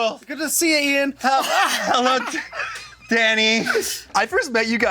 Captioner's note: cracking up